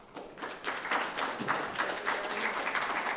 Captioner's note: applause